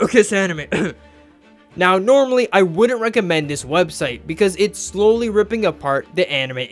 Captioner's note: cough